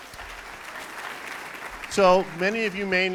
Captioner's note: applauding